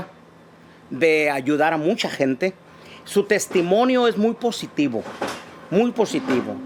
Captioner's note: foreign language